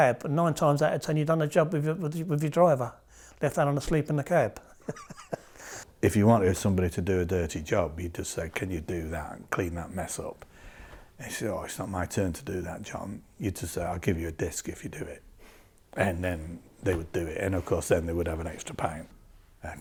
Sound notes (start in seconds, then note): 4.7 laughs